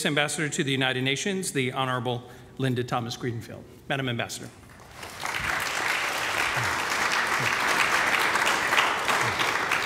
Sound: applause

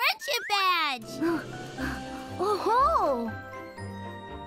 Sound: panting

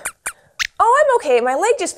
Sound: squeaks squeaks

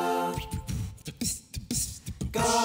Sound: beatboxing

